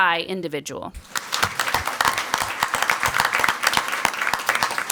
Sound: crowd clapping

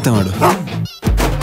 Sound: bark

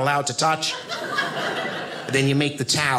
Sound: audience laughing

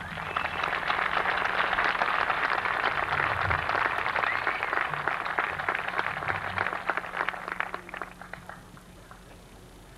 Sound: applause

